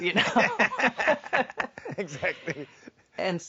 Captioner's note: laugh